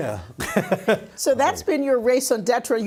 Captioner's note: laughing